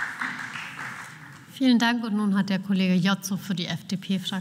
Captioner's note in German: Beifall